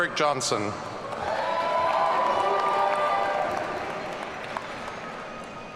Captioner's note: audience cheering